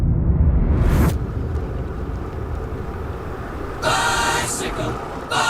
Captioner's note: gears hum